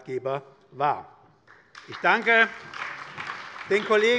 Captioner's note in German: Beifall bei der SPD